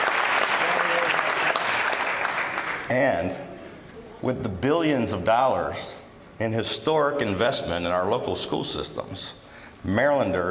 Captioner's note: applause